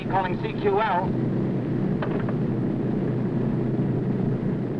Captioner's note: plane whirring